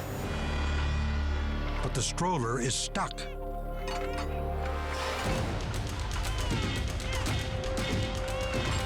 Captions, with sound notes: (ominous music) But the stroller is stuck. (baby crying)